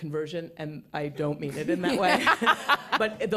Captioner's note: laughter